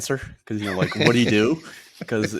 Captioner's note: laughs